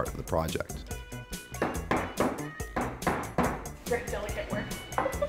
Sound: mallet banging

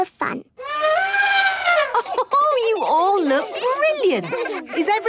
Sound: trumpeting; Mummy Pig laughing

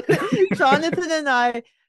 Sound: laughter

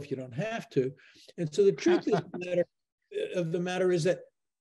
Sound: laughs

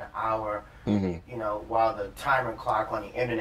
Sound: sounds of agreement

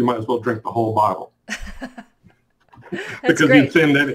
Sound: laughs

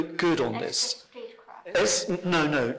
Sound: chatter

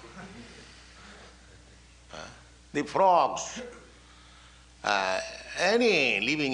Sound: laughter

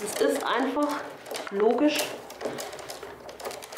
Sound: none

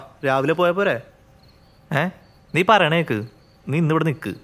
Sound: none

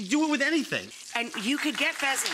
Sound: audience clapping

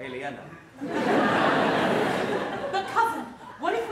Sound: audience laughs

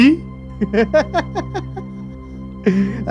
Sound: laughs

